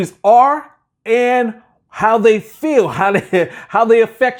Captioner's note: laughing